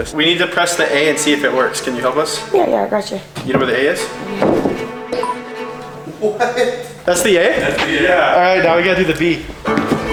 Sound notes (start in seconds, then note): 3.2 footsteps; 5.1 beep; 5.9 laughs